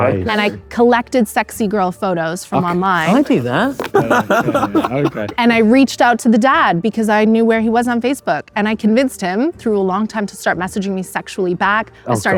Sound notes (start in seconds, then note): 3.6 Josh laughing